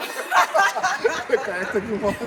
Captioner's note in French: rires